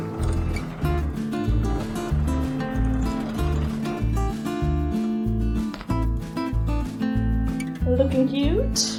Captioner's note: sound of sewing machine